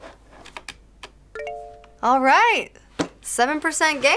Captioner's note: computer chimes